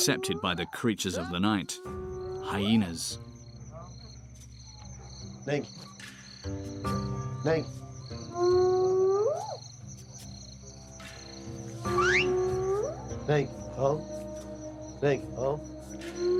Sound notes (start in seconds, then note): 5.2 speaking in foreign; 8.7 hyena growling; 12.0 speaking in foreign